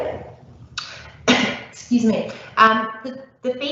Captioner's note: coughing